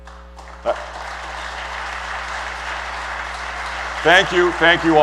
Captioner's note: applause